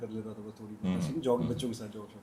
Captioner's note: clearing throat